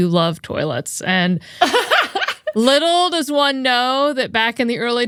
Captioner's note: laughing